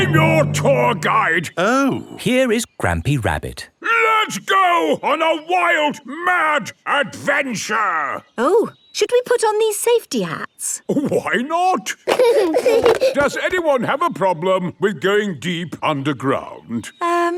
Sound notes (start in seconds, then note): 12.0 giggling